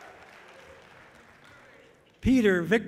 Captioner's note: audience clapping loudly